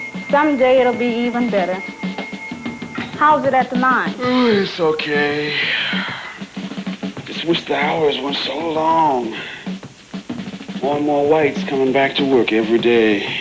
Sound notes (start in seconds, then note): 4.2 sighs; 5.3 yawns